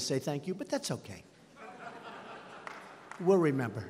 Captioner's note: laughter